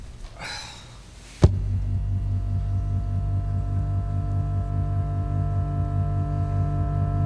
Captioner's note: electronic humming